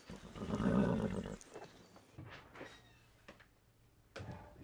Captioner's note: horse knickers